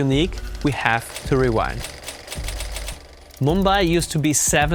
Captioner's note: reels spinning